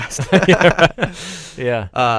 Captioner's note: both laugh